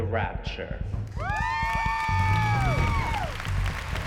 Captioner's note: cheers and applause